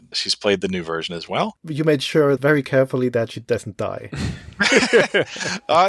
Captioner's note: laughs